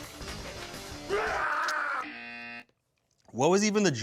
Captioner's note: grunting; intense music; screams; buzzer buzzes